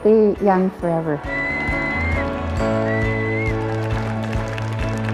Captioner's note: whistling, applause